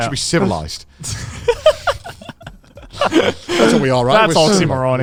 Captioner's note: all laughing